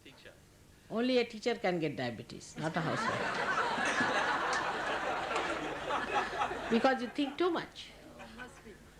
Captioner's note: laughter